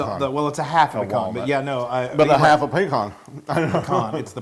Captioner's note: laugh